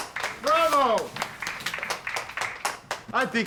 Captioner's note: applause